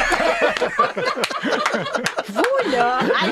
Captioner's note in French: rires